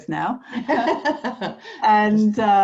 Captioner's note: laughs